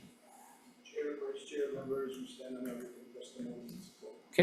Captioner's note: speaks faintly